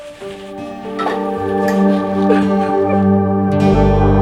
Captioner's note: crying